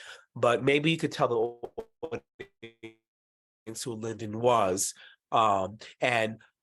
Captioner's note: audio distortion